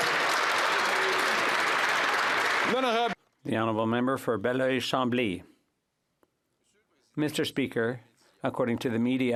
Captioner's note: some Applause